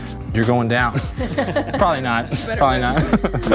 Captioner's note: laughing; everyone laughing